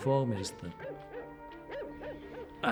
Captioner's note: dog barking